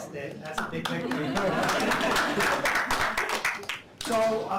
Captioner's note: applause